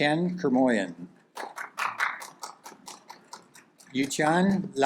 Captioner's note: audience claps